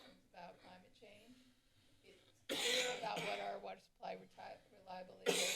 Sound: coughs

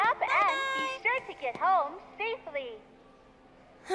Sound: woman over P.A

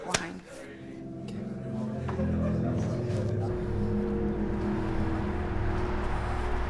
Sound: people murmuring

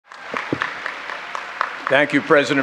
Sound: audience cheering

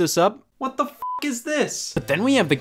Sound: beep

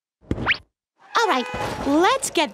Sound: car horn; crash

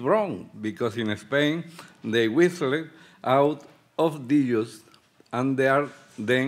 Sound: speaking Spanish

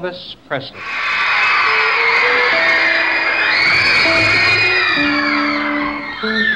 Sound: audience screaming and cheering

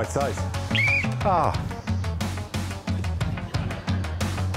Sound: whistle blows

